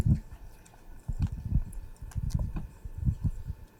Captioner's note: mic crackling